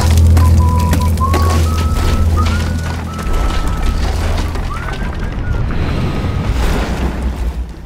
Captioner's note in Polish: Gwiżdżenie